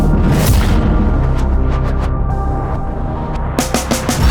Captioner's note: wind blowing